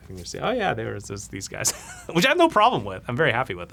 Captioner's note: laughs